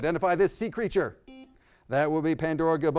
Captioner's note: beep